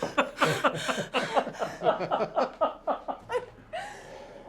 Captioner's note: laughing